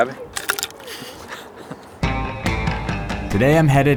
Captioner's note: laughing